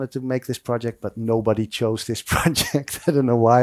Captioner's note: laughs